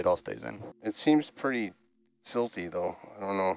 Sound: male Voice

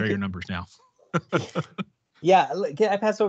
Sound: chuckles

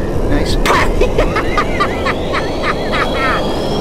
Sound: laughing

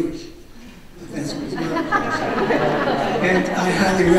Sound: audience laughs

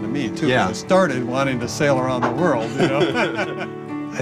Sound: laughs

